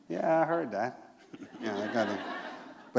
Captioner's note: laughter